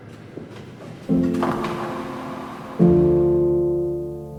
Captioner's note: bowling ball rolling; pins echoing; slow piano music